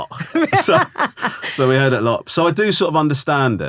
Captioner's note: laughing